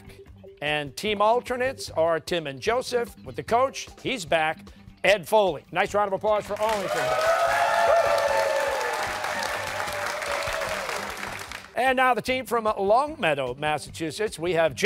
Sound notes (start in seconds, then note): 6.5 cheers and applause